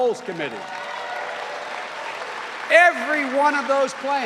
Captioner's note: cheering and applause